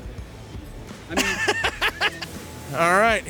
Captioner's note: laughing